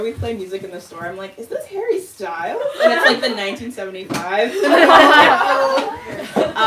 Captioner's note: crowd laughing